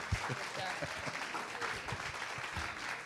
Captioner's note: applause